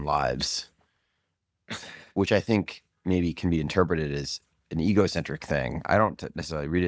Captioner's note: laughs